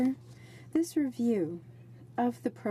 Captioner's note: speaking in french